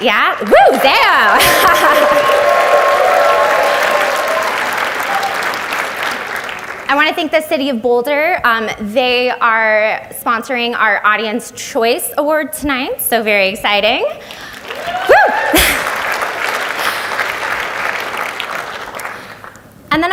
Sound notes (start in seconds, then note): 0.0 audience applauds; 1.2 laughs; 14.3 audience applauds